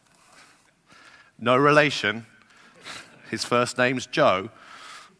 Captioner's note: laugh